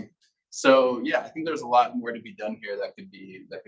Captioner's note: male Voice